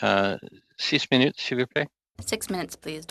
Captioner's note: speaking French